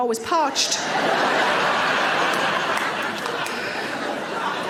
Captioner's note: audience laughing